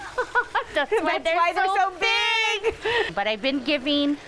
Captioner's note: laughing